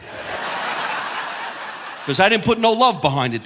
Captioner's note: audience laughing